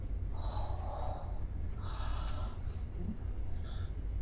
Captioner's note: gasps